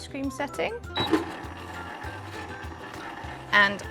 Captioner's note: ice cream maker whirs